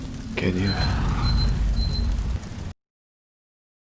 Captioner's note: beeping